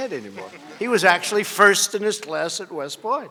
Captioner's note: laughter